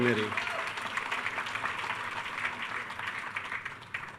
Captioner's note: attendees cheering